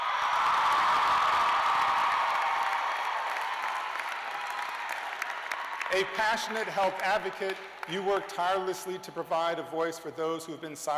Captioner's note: cheers and applause